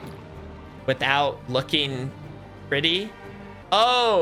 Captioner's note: Spanish; in English